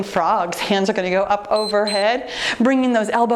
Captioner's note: timer beeps